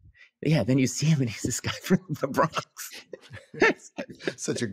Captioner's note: laughs